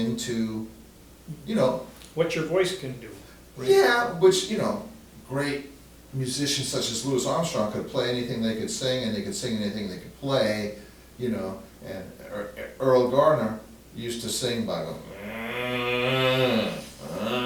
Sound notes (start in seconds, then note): 15.0 moans